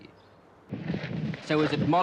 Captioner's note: wind blowing